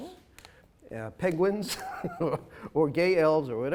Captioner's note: chuckles